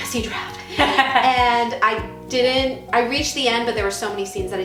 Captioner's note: laughing